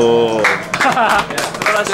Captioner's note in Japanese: 拍手